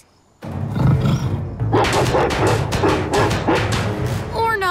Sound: roaring

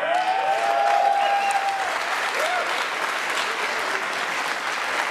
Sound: attendees cheering and applauding

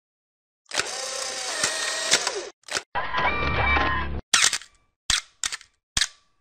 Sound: camera clicking

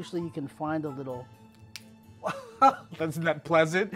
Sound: bone cracks

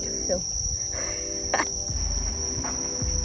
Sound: laugh

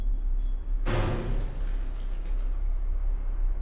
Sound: distant metallic noise

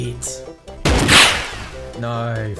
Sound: gunshot

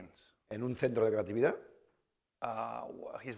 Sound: speaking spanish

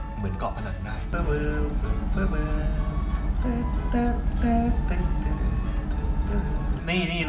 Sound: humming

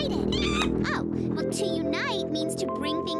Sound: screech

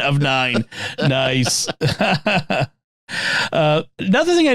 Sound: laughing

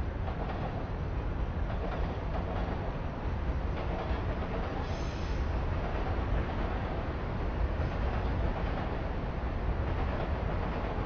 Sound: train Noises

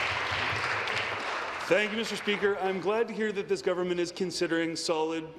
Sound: applause

